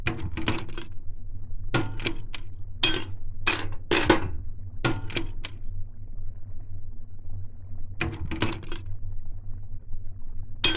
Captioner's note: metal clanking